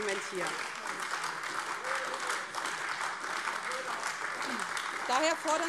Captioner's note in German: Beifall AfD